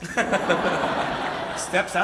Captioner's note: audience laughs